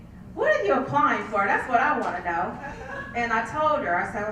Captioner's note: laugh